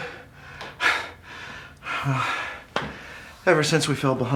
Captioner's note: Curtis panting